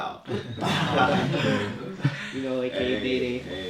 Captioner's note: laughs